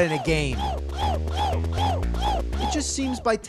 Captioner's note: HOOOs continue in background; HOOOs continue as enemies watch